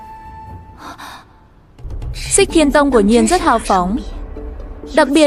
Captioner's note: sigh